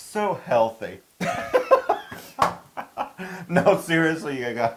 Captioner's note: laugh